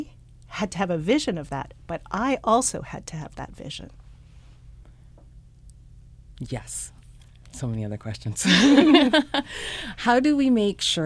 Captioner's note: both laugh